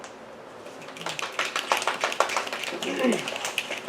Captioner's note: applause and snaps